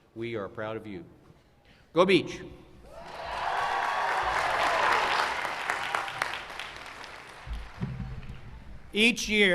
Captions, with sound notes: STATE LONG BEACH GRADUATE AS WE ARE OF YOU.GO BEACH! [CHEERS AND APPLAUSE]